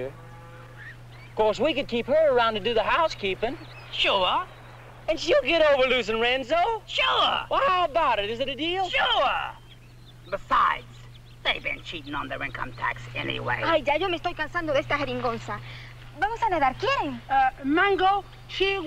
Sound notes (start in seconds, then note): 12.4 Mango speaking in Spanish